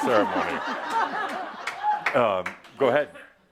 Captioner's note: laughter